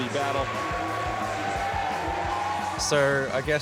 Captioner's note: cheering, applause